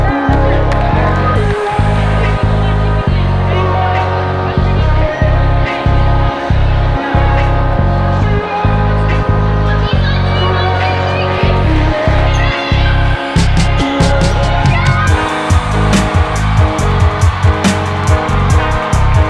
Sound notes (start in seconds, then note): 10.3 chant; 14.9 cheering